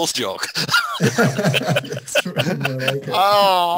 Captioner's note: laughter